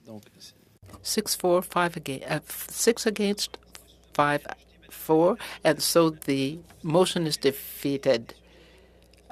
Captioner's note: speaking French